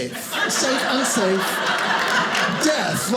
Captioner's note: audience laughing